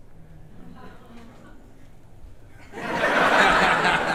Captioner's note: audience chuckles; audience laughing